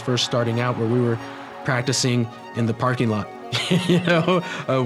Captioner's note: laughs